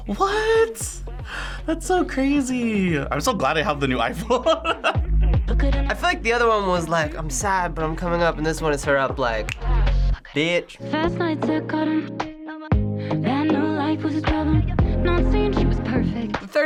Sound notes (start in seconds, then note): 4.2 laughs; 9.5 snaps